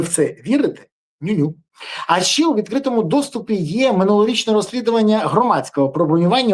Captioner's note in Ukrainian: сопіння